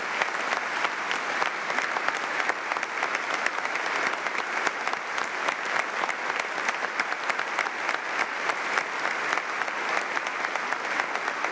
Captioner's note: applause